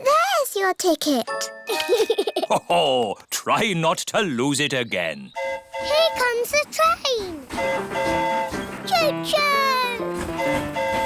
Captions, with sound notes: -There's your ticket. -(GIGGLES) -Ho-ho! Try not to lose it again. -(TRAIN HORN HOOTING) Here comes the train. -(TRAIN HORN HOOTING) -Cho-choo!